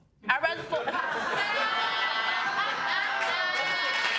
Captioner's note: audience laughing